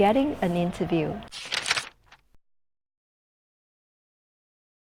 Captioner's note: shuffling